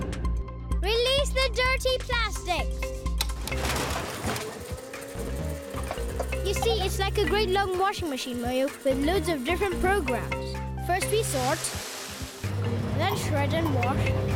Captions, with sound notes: - Release the dirty plastic. (whirring) You see, it's like a great long washing machine, Moyo, with loads of different programs. First we sort. Then shred and wash...